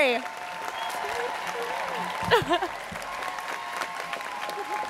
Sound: students cheering

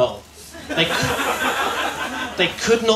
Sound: laughter

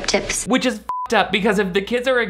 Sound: beep

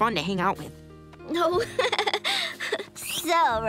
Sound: laughing

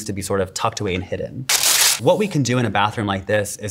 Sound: paper tearing

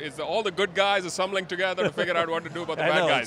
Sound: laughing

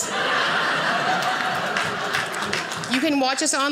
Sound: audience laughing

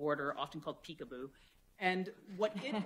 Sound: laughter

